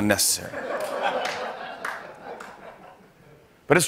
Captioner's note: laughter